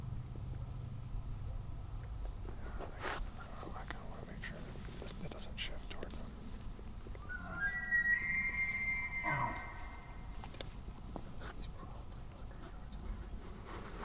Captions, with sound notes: I don't know, I kind of want to make sure. It doesn't shift towards them. (Elk bugling) He's probably a hundred yards away right now.